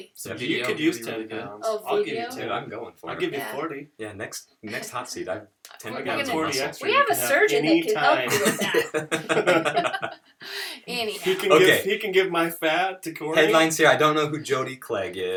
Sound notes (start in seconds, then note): 7.9 laughter